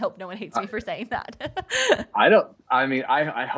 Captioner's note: laughs